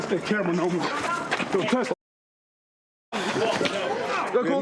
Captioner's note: muted